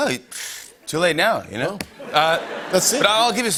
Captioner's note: laughter